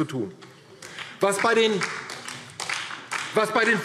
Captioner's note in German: Beifall DIE LINKE